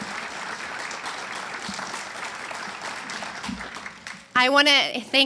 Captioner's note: audience cheers and applauds